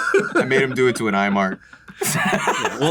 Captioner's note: laughter